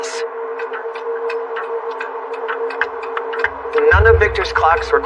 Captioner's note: clocks ticking